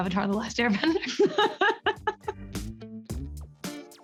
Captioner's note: Camila laughs; upbeat music